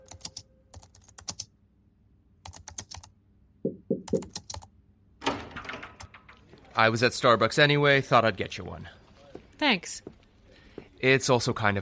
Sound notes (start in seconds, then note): 4.0 typing; 5.2 door opens